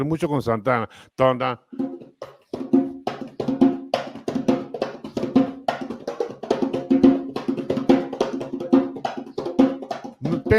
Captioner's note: Tararea; Percusión; Tararea imitando guitarra eléctrica